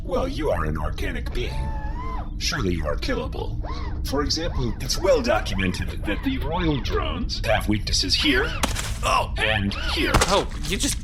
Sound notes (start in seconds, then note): 1.2 whirr; 4.8 walking whirrs; 9.1 splorch